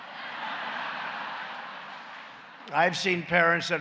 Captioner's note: laughter